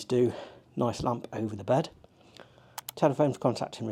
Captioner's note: mouse clicking